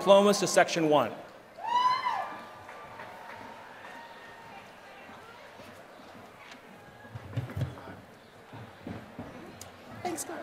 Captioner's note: applause